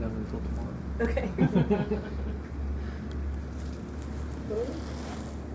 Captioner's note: group laughing